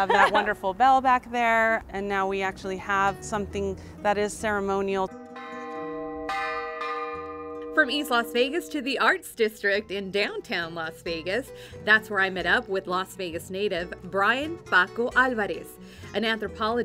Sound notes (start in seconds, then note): 7.0 bell ringing